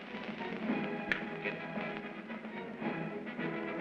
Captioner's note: snaps fingers; triumphant music